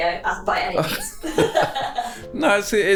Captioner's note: laughing